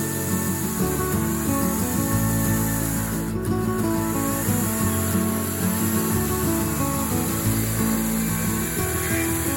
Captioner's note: electric chainsaw sound